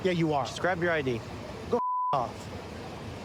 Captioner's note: beep